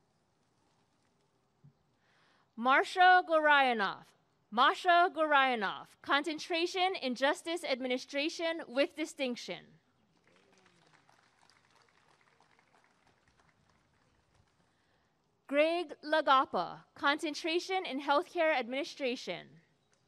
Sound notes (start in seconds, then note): 10.1 applause and cheering